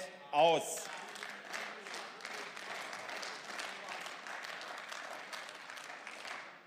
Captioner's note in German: Beifall